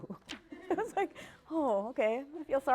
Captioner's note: laughter